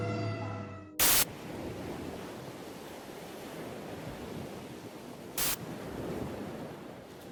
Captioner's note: static hissing; waves lapping